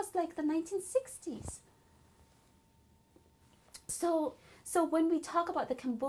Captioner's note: pauses for 3 seconds